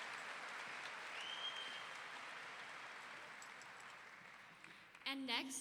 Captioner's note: audience member wolf-whistling